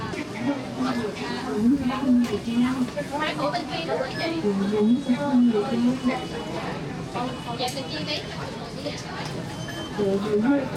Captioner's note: people chattering